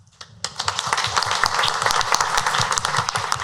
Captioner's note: clapping